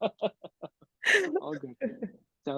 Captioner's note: laughing; chuckles; chuckling